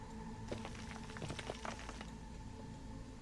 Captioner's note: gravel sounds